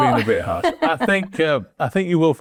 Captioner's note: chuckles